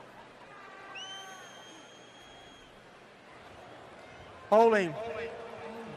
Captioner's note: screams